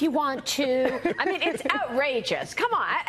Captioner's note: laughter